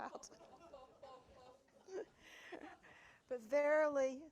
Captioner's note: audience laughing